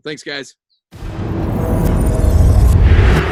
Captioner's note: booming sound effect